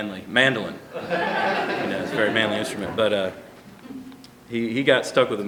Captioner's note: laughter